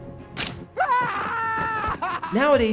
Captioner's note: scream